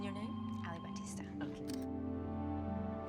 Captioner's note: camera shutter